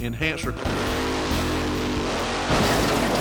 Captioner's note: car engine rumbling; car clanks